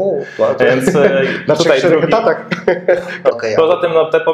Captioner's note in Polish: śmiech